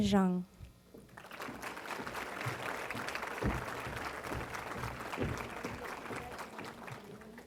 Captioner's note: applause